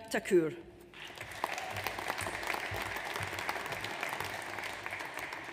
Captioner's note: audience applauds